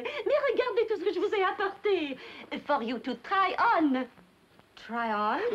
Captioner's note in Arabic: يتحدث بلغة أجنبية